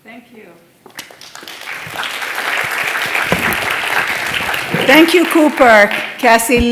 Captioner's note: applause